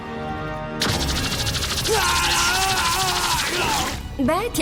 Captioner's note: laser gunfire